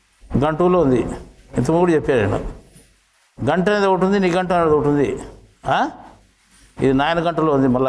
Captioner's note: spiritual language